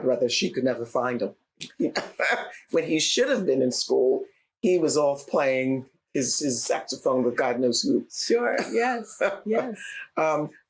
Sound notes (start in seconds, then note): 1.7 laughter